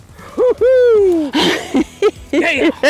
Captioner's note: laughter